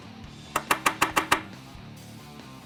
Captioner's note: tapping